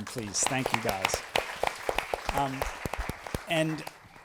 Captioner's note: applause